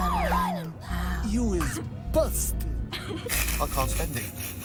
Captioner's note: snickering